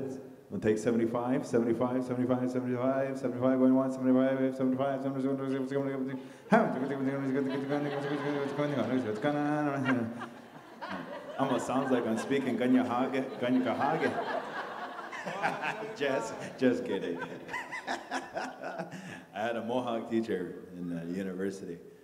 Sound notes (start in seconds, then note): 4.0 audience laughter; 4.0 mimicking an auctioneer; 14.2 audience laughter; 17.4 laughs